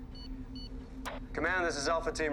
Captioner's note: device beeps